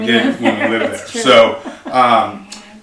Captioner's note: laughs